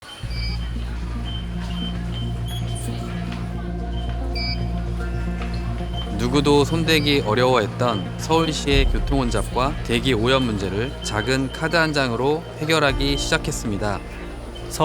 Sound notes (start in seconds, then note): 0.3 card recognition sound; 0.3 emotional music